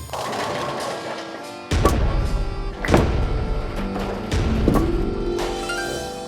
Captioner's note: bowling pins falling; calm music